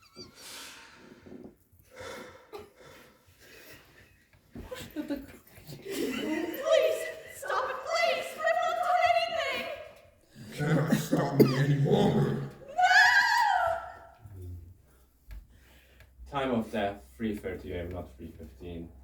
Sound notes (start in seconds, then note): 0.3 deep inhale and exhale; 10.5 male Voice; 12.0 screams